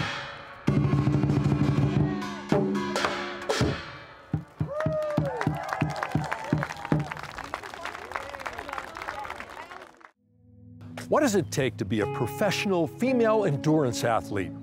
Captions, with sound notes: [Drumming Ends] [Applause] What does it take to be a professional female endurance athlete?